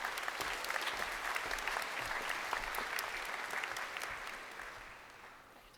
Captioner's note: crowd applauding